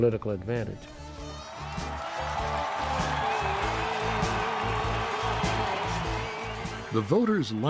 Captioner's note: crowd cheering